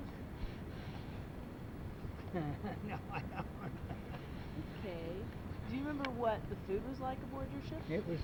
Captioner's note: laughs